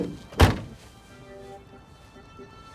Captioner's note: trunk closes